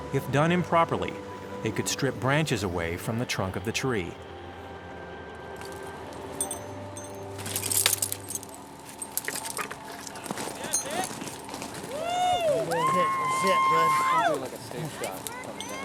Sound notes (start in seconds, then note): 7.1 branches crunching; 11.7 people cheering